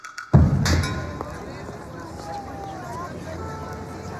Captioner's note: people chattering